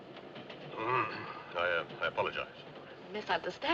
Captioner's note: Limpa a garganta